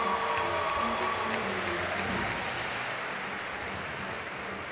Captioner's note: applause